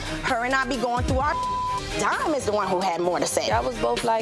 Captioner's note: beep